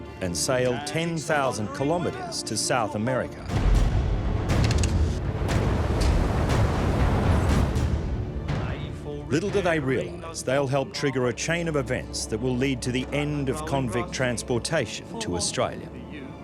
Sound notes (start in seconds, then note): 3.3 ominous music; 4.5 gun cocking; 5.1 waves crashing